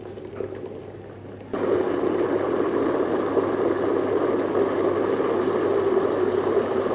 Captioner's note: sound of blender whirring